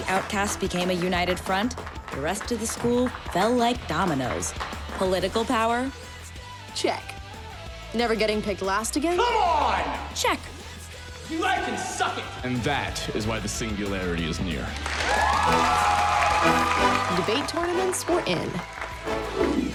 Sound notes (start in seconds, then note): 14.6 applause; 14.7 cheering